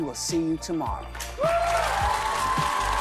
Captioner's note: applause